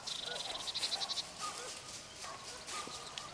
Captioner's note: birds calling; shuffling